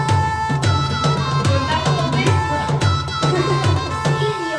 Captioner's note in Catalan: riures